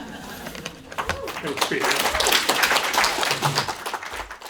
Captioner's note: applause